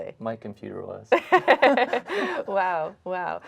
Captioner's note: laughs